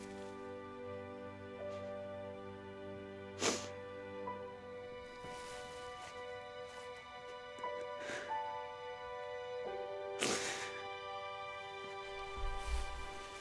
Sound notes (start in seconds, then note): 3.3 Laura sniffling